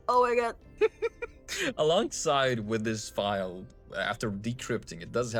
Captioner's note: laughs